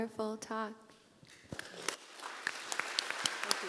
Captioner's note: applause